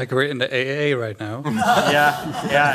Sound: laughter

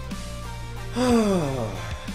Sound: sigh

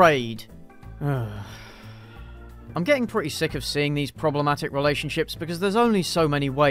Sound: sigh

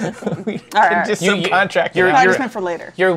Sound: laughs

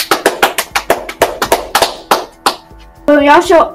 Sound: clap

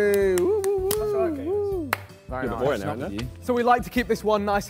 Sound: Sidemen cheer

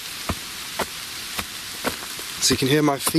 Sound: footsteps crunching

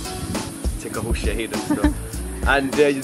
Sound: laugh

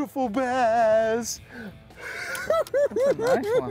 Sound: cackling

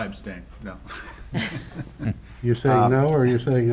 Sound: laughter

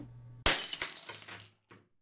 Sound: shattering

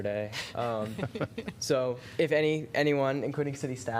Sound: laughter

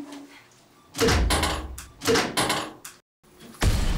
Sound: A knock breaks the silence

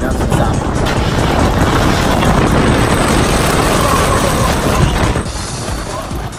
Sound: loud roller coaster being loud

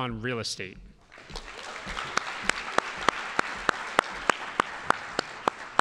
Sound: audience applauding

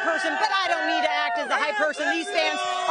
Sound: cheering

